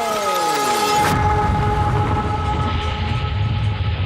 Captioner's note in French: Bruit d'explosion